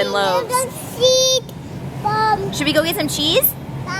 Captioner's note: toddler yelling